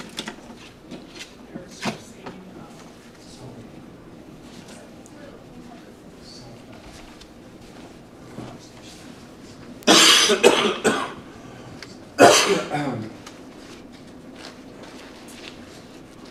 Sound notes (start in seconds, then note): 12.2 cough